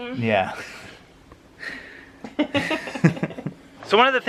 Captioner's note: laughs